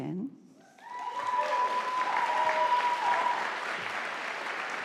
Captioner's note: audience applauding